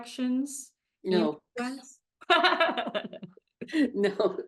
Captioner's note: both laughing